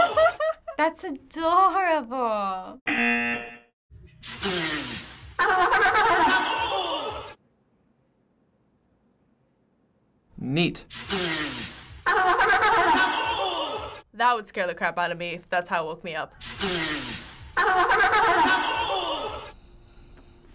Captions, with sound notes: - That's adorable. - (sea lion blowing air) (sea lion laughing) - Neat. - (sea lion blowing air) (sea lion laughing) - That would scare the crap out of me if that's how it woke me up. - (sea lion blowing air) (sea lion laughing)